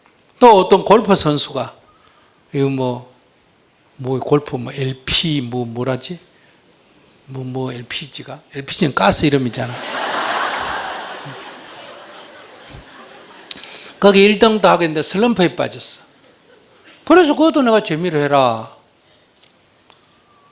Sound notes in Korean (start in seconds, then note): 12.1 청중 웃음